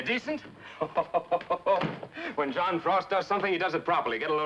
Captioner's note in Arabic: يضحك